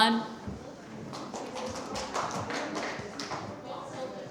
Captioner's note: applause